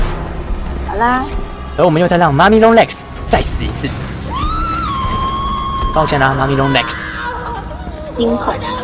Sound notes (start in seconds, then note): 4.3 Mommy Long Legs Scream